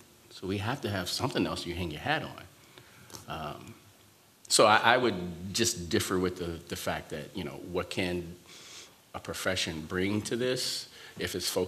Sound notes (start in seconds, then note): none